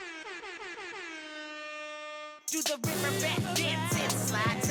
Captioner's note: horn blaring